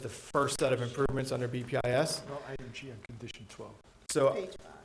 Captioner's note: board chatting quietly